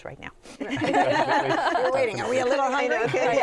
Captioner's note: laughter